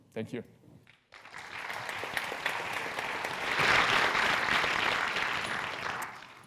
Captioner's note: applause